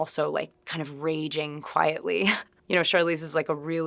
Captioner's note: chuckling